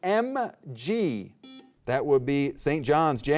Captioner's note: buzzer beeping